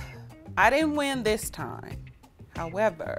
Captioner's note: sighs